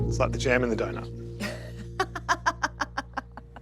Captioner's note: laughs